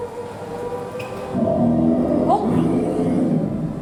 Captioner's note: loud bear roar